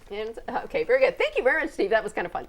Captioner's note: laughing